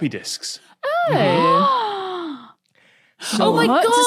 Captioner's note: gasps